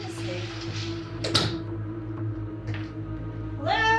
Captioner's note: door thuds